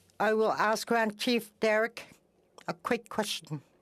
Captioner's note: speaking Indigenous Language